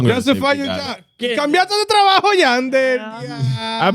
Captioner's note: speaking In Foreign Language